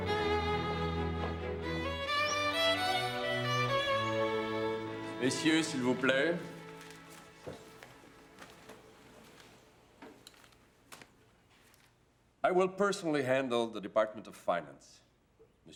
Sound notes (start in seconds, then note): 1.8 birds chirp; 7.2 speaks French